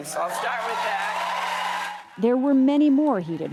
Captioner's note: cheering and applause